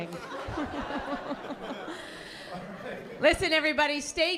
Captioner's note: laughter